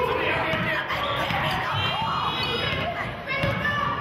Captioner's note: yelling